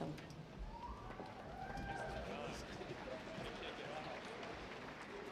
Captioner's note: audience applauding